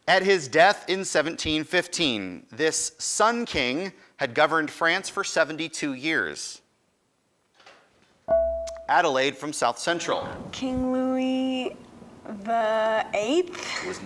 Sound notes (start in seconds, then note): 7.7 buzzer dings